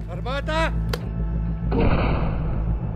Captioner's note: someone shouts something; muffled crash